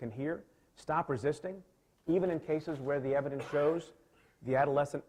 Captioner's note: coughs